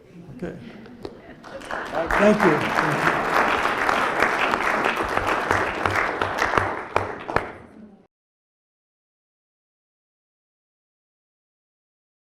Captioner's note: applause